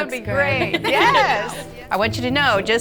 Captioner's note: laughing